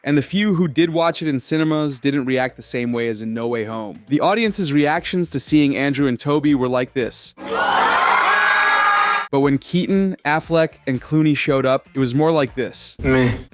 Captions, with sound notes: And the few who did watch it in cinemas didn't react the same way as in No Way Home. The audience's reactions to seeing Andrew and Tobey were like this. [Screaming] But when Keaton, Affleck, and Clooney showed up, it was more like this.